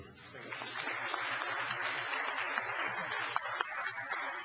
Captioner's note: applause